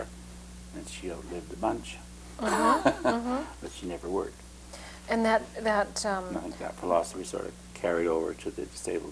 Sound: laughter

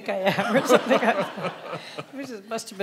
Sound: audience laughing

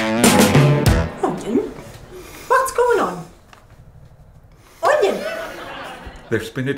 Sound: audience laughter

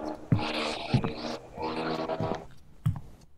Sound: footsteps

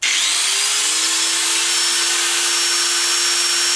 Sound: saw running

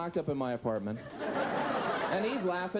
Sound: audience continues laughing

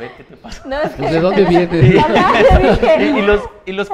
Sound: laughs

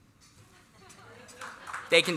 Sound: applause

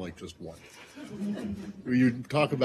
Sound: laughter

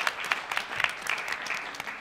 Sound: applause

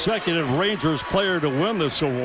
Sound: cheering

